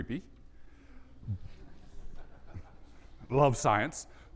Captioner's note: audience laughs